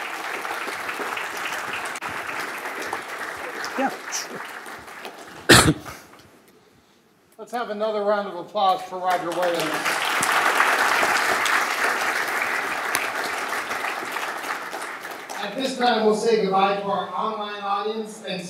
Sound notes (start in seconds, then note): 0.0 clapping; 8.6 audience clapping